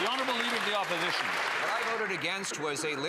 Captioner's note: some Applause